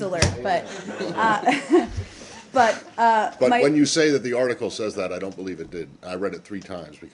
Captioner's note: laughter